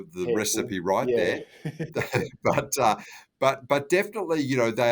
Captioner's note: panellists chuckling